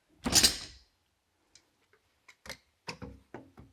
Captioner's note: tools clattering